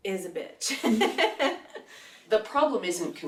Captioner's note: laughs